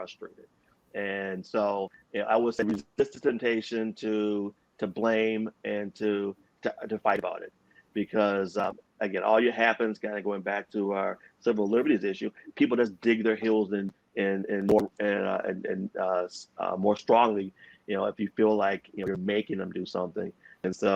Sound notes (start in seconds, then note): 4.2 audio distort